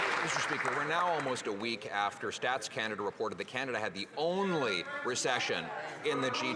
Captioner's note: some Applause